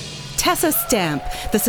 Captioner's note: applause